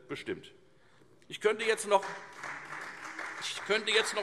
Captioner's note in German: Beifall Freie Demokraten